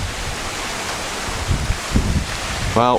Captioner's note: wind